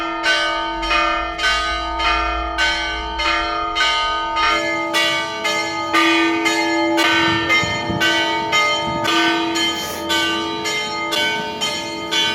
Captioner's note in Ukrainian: дзвін